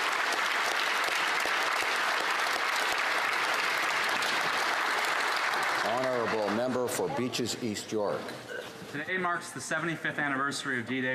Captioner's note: applause